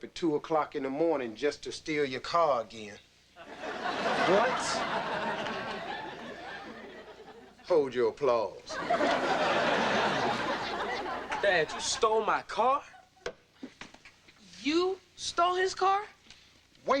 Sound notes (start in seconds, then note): 3.4 audience laughing; 8.7 audience laughing